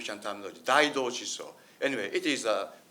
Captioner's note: speaks in foreign language